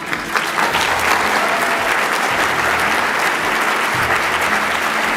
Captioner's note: audience applauding